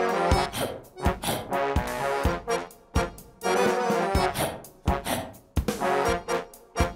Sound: whimsical folk music; person barking to beat; whimsical folk music

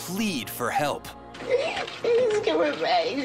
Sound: sobbing

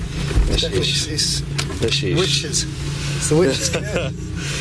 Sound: chattering; chuckling

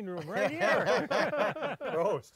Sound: everyone laughs

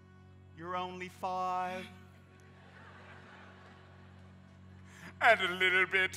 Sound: audience laughs

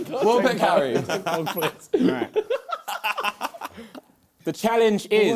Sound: both laughing

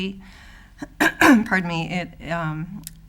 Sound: clears throat

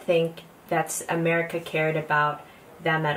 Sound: woman in hat speaking native language

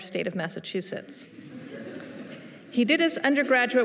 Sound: laughter

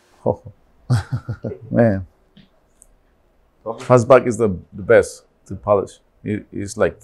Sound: chuckles

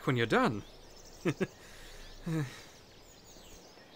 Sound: laughs nervously

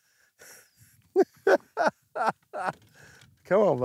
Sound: laughing

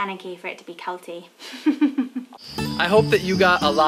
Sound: laughs

